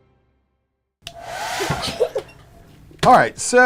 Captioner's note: laughing